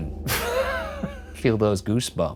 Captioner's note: laughing